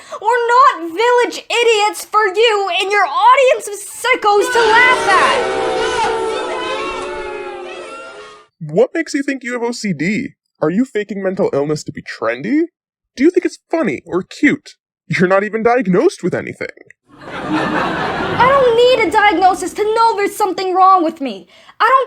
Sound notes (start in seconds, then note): 0.2 tearfully; 4.4 audience boos POOKIE; 17.1 audience laughs at POOKIE